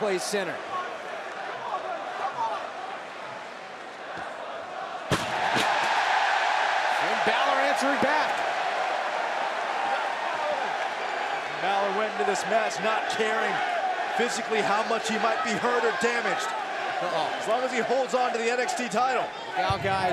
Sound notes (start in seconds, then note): 4.2 crowd cheering